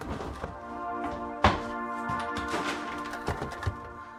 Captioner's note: things being moved; kitchen drawer shut forcefully